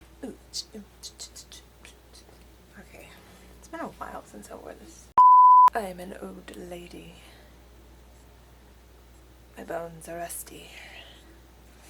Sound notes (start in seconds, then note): 5.2 beep